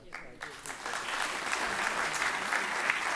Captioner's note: applause